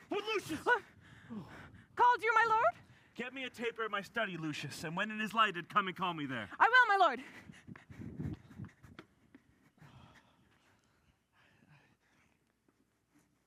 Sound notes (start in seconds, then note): 7.2 breathing heavily; 9.9 sighs